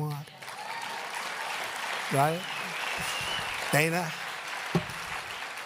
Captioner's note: applause